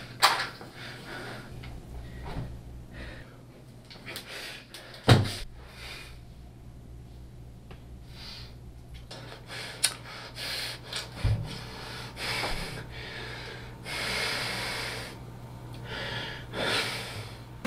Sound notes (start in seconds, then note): 3.3 man panting